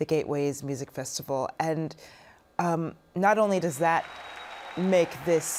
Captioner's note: cheers and applause